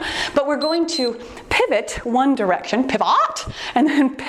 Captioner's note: timer beeps